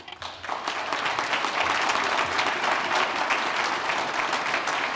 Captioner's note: applause